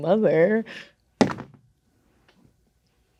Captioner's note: dice rolling